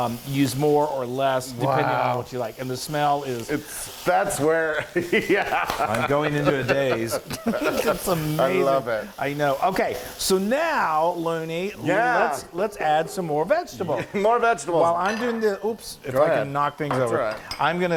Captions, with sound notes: Use more or less depending on what you like. And the smell is... - Its, that's where, yeah (laughs) - I'm going into a daze. It's amazing. - I love it. - I know. Okay, so now loony let's add some more vegetables. - More vegetables. - While I'm doing the... Oops, If I can knock things over. - It's all right.